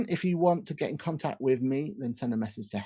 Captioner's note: none